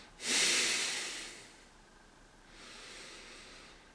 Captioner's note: heavy breathing